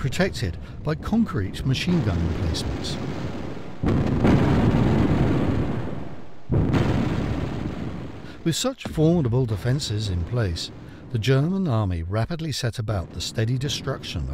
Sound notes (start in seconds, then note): 4.4 explosions boom; 4.4 guns bang